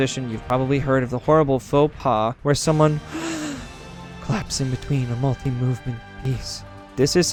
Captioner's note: gasps